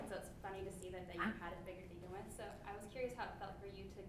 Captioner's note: speaks faintly